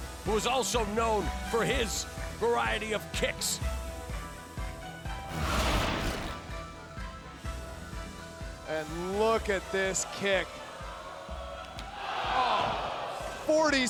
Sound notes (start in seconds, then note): 5.2 wind whooshing; 12.2 crowd exclaiming